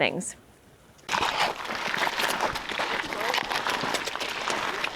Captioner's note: footsteps rustling